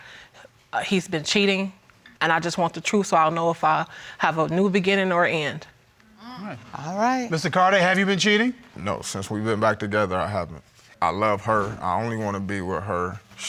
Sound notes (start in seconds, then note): none